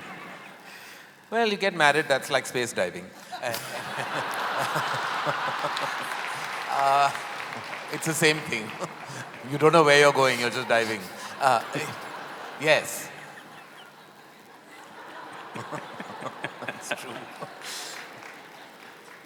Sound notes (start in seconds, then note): 0.0 laughter; 4.8 laughter/Applause; 12.1 laughter